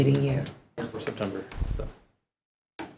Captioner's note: speaking faintly